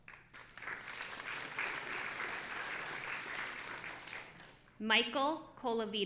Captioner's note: audience applauding